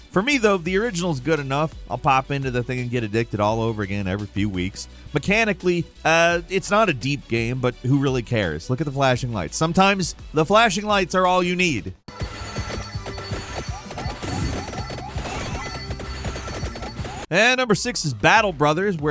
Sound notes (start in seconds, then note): 12.0 dramatic upbeat music; 12.1 game chiming; 17.6 intense electronic music